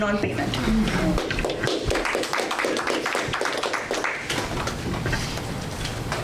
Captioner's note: audience applause